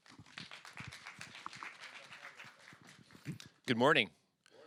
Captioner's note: applause